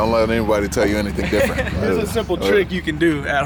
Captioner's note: laughs